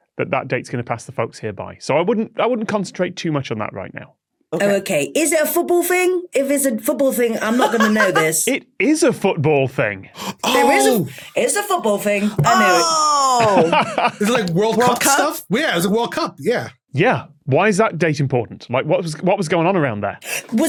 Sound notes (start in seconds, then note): 12.2 laughs